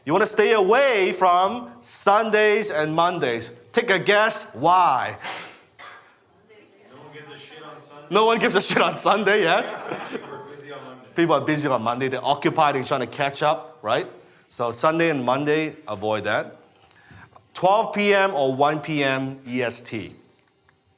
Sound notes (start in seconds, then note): 8.6 laughs